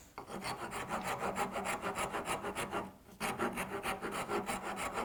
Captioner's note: rasp scratches against wood